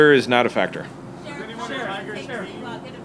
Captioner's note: many reporters talking at once